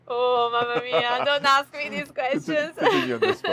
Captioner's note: chuckles